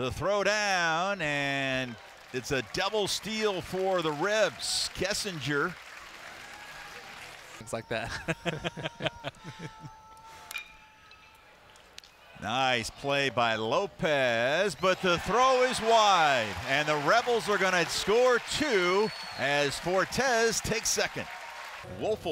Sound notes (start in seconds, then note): 8.0 laughter; 10.6 ball hitting bat